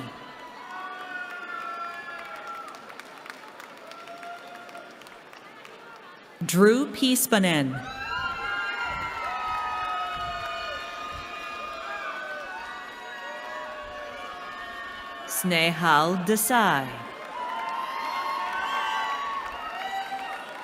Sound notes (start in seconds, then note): 0.0 applause; 7.7 cheering